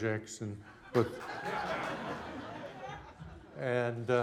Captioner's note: laughing